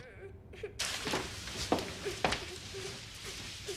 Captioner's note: moaning